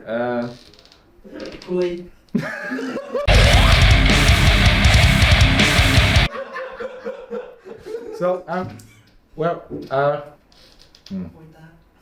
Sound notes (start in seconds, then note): 1.6 speaking foreign language; 2.6 laughing